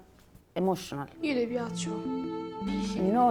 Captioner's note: in Italian